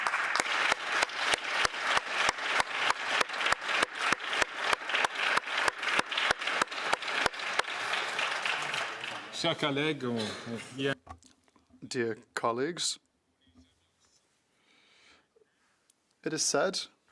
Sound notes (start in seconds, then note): 3.5 applause